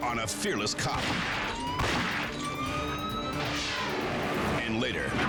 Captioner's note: gunshots echo; siren wailing